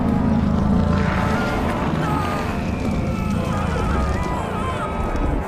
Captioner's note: groaning